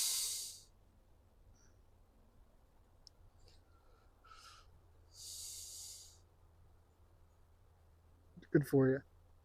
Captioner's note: sigh